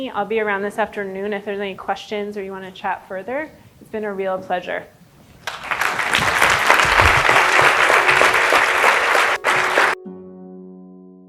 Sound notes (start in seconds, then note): 5.4 applause; 7.4 gentle music